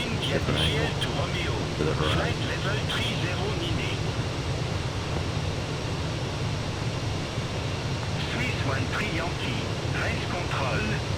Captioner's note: radio chatter